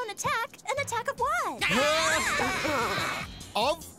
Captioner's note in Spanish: gritos ahogados